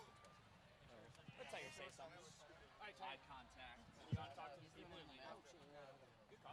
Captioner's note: group chatting